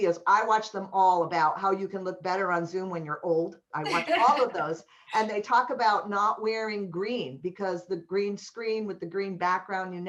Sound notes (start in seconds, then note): 3.9 laughter